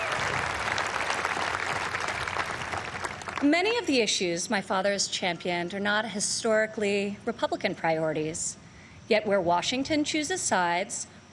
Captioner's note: applause